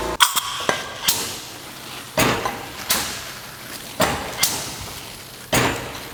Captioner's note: machine clanking; spraying